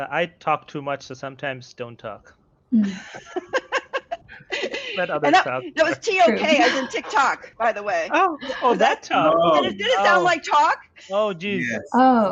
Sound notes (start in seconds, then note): 4.0 laughs; 8.2 laughs